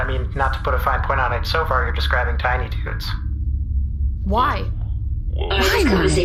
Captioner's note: scolding